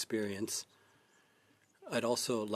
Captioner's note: speaking French